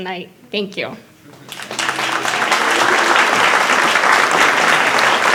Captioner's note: applause